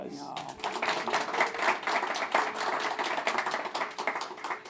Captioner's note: audience clapping